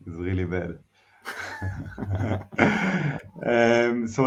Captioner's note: chuckles